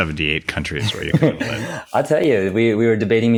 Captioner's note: laughs